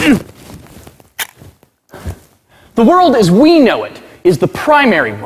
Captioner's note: camera shutters